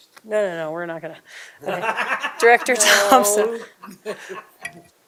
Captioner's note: laughter